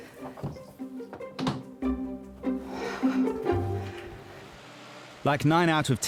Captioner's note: light music; sighs